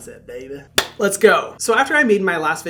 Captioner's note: hands tapping